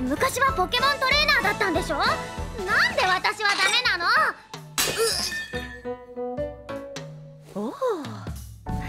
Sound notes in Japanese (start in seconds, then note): 4.7 おさらが われた音